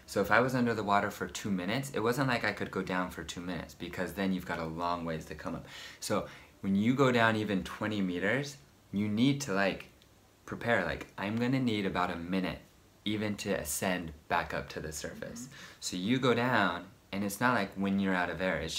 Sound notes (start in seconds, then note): none